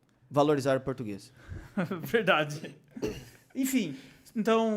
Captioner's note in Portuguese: risos